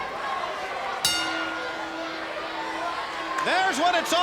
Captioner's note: bell rings